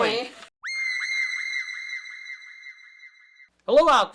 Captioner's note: high pitched shriek